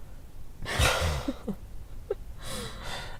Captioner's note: laughter